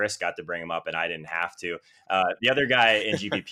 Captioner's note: laughs